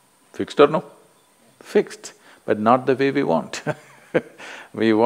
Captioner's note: laughs